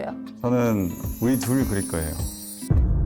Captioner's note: imprinting in his heart sound effect